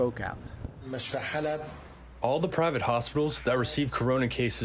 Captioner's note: through translator